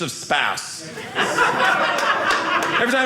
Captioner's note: audience laughing